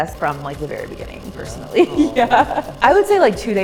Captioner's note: laughs